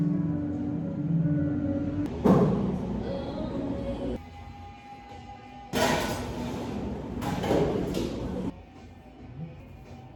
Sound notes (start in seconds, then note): 2.2 kitchen booms; 5.7 dishes clank loudly, tumble softer